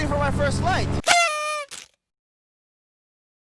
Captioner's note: horn